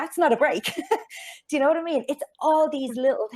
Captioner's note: chuckles